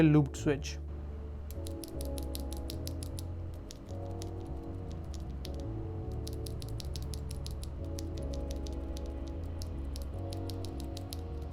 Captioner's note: sound of the switches